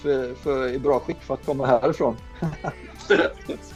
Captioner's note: laughing; laughing in response